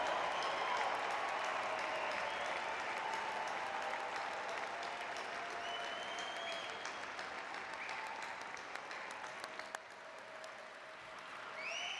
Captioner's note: cheers and applause